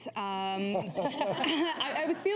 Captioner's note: laughing